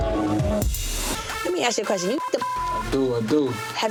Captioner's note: beep